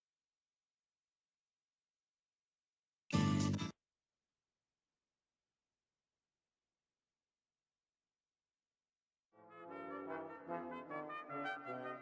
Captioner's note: silence